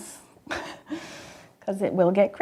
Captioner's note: laughs